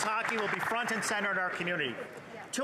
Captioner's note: some Applause